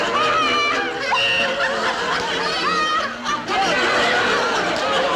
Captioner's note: women laughing